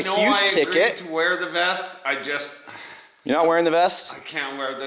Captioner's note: sighs